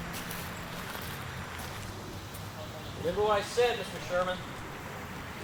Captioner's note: none